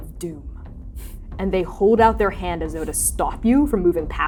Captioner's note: scoffing; scoffing